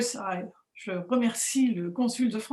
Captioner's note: speaking french